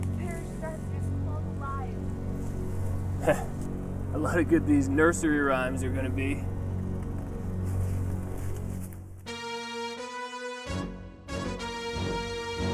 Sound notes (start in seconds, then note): 3.1 chuckles; 9.5 suspenseful music